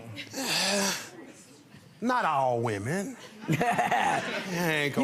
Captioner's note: sighs; laughs